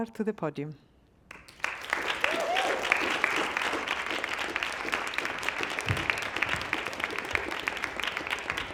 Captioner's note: applause